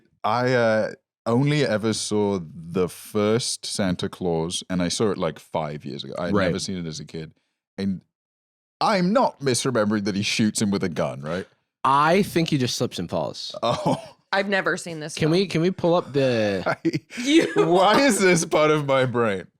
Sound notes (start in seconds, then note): 13.6 laughs